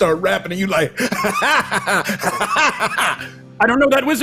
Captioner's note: laughs